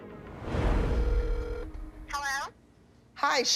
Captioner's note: line ringing